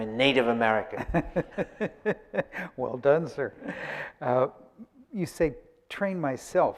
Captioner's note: laughs